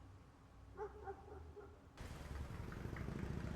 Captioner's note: dog barking